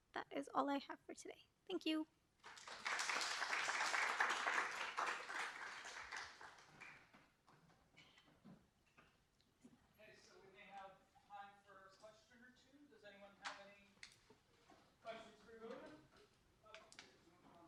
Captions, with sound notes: That is all I have for today. Thank you. [APPLAUSE] OK, so we may have time for a question or two. Does anyone have any questions for Ulia?